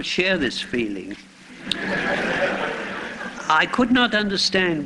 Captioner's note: laughter